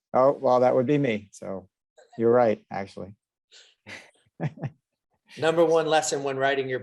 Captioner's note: laughs